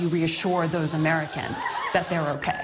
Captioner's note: spraying continues